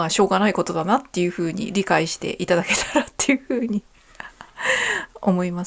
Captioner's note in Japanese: 笑い